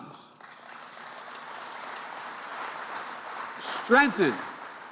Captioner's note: applause